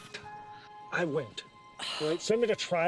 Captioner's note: Eleanor scoffs